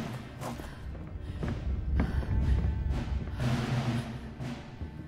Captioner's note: suspenseful music continues; Mabel pants